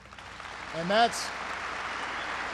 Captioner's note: applause